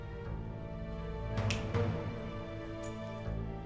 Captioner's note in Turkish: Parmak çıtlatma sesi